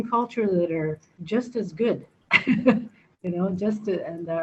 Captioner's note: laughs